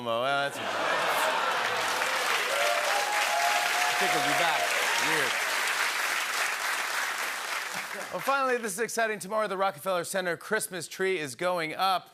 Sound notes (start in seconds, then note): 0.5 laughter, oohs, and applause; 3.1 cheering